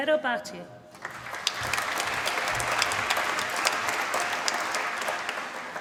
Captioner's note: applause